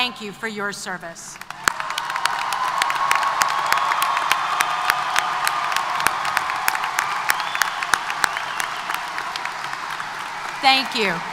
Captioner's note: applause & Cheers